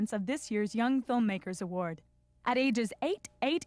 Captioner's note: none